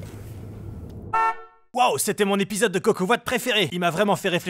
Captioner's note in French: voix off